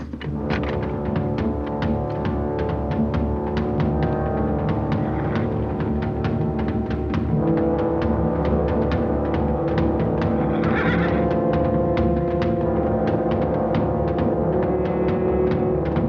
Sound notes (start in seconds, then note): 10.1 horse neighing; 11.6 drumming throughout